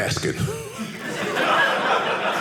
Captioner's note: audience laughing